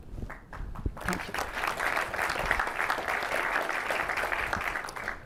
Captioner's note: applause